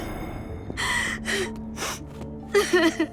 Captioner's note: Jessa cries